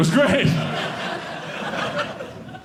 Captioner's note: audience laughing